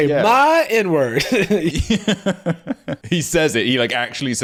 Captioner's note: laughing